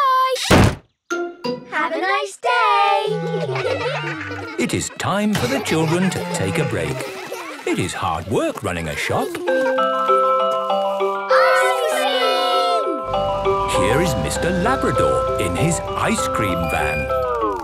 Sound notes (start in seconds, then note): 3.3 children giggling; 10.0 ice cream truck jingle